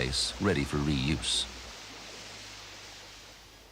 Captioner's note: water flowing